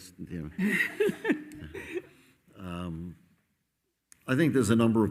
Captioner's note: moderator laughing